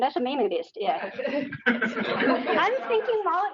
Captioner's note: all laughing